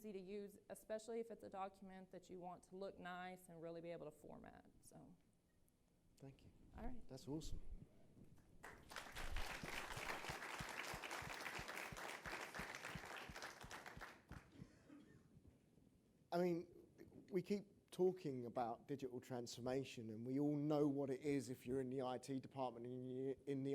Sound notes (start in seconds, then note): 13.3 applause